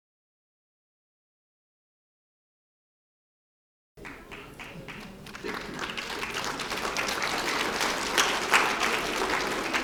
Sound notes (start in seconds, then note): 4.0 applause